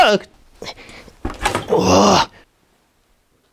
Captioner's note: grunt